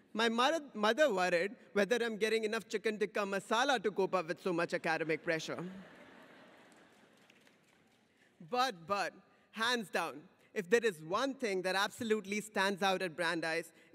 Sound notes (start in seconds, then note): 5.5 audience laughs